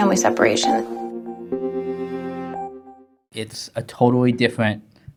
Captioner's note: beeping